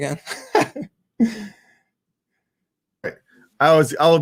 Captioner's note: laughing